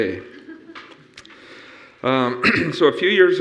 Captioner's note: audience lightly chuckling